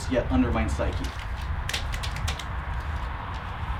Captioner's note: Poet 1 snaps his fingers